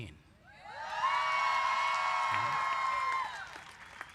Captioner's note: cheering